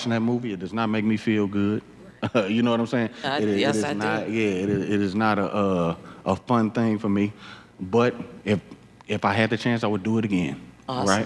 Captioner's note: laughs